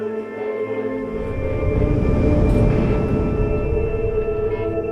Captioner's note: engine humming